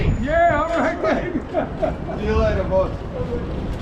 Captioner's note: men Chatting